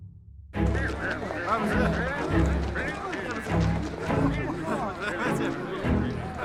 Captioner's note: all chattering